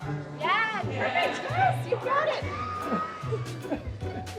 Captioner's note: laughs